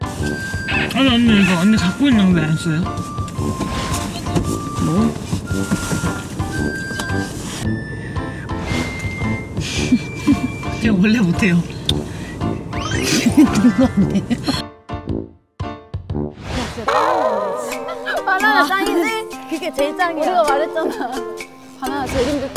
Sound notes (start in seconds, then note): 14.9 spitting banana